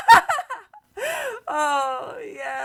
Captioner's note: more wild laughter